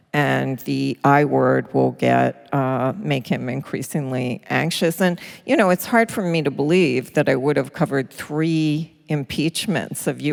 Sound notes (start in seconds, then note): none